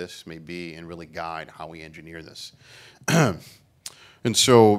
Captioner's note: clears throat